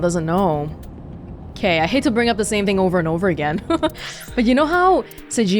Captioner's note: chuckles